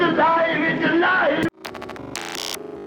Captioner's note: projector running